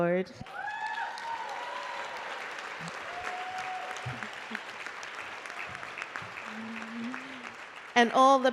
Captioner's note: applause